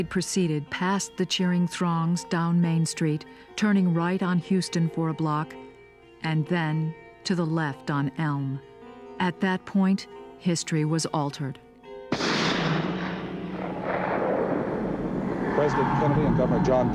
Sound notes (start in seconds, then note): 12.1 gunshot